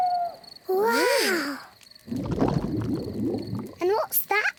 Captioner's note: owl hoots; grumbling